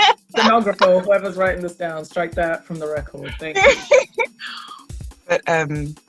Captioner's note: laughs; laughs